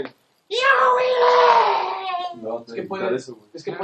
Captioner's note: whiny scream